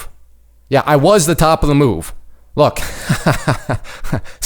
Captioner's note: laughs